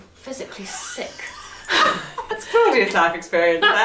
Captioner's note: laughs